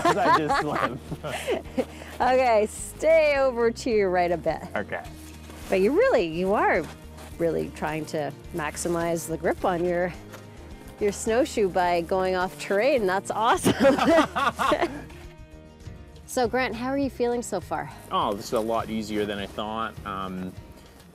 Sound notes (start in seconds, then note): 13.6 laughter